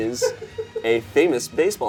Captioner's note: person laughing in the background